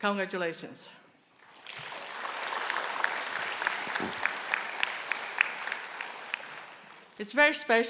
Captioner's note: applause